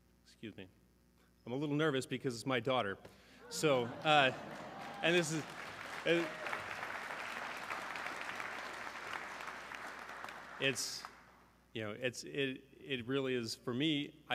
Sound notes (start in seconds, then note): 3.4 audience cheering; 3.6 stuttering